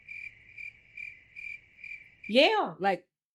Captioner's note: crickets chirping